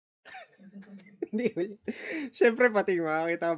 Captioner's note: wheezing